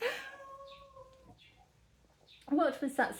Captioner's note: laughing; meow